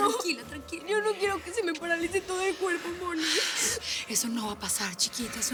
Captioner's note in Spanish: sollozos